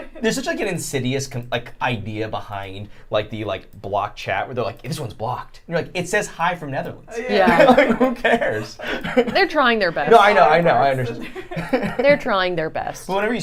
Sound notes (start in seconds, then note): 7.2 laughing